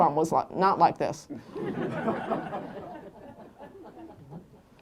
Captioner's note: laughter